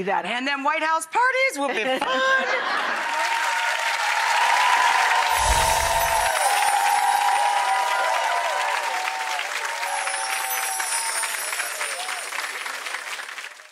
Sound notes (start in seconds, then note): 2.4 audience applauding